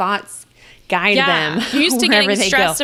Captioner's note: laughs